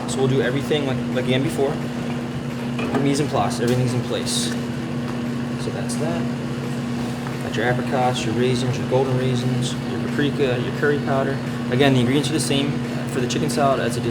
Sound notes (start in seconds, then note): none